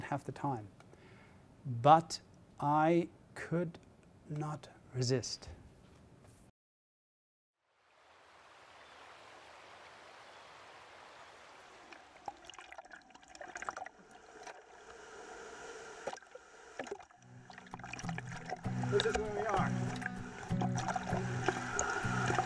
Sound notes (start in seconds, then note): 14.6 water running